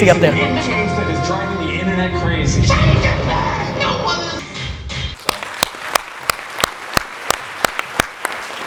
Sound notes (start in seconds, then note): 5.1 applause